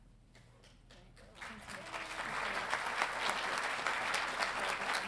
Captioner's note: audience applauding